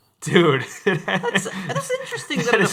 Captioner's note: laughing